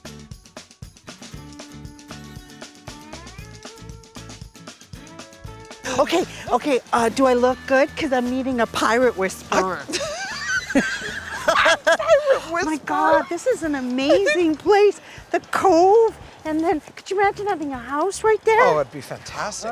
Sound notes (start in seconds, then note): 9.5 laughter